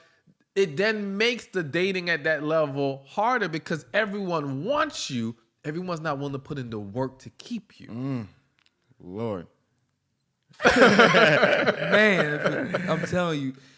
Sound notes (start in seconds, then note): 10.6 laughter